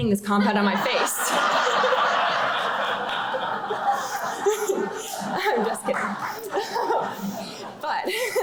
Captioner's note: laughter